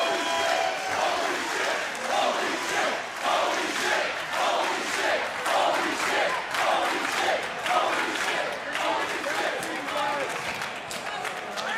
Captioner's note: crowd chants "holy --"